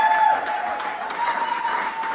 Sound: clapclapclap

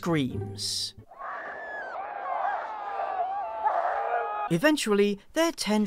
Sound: screams

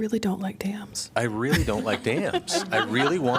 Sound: laughter

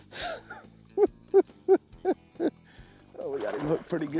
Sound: laughing

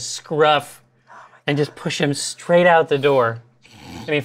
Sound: whispers

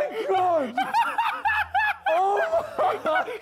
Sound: Ethan cackles

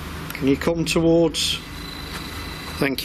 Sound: machine buzzing

